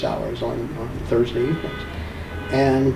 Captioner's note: car honking in distance